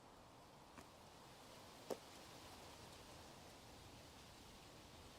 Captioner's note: leaves rustling